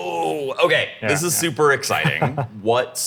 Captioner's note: chuckling